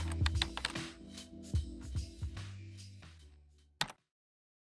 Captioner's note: keyboard clacking